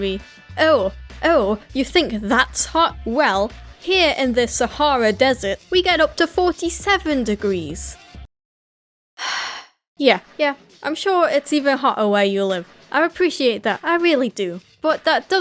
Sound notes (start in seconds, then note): 9.2 sigh